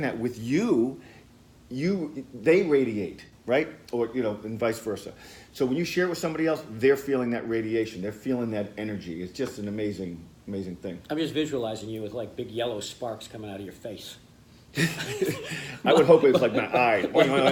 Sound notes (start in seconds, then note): 14.7 laughter